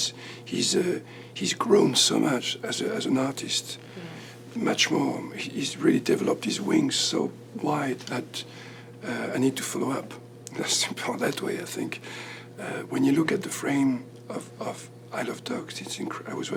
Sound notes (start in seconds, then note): none